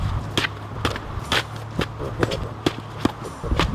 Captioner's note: whacking sounds